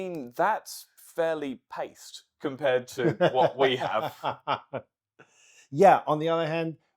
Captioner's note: laughing